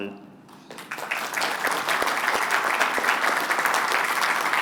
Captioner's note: applause